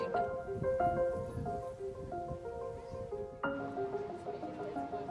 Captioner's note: woman speaking in foreign language; indistinct chatter; piano music continues